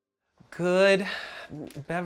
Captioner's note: sighs